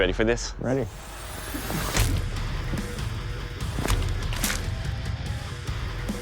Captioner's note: impact sounds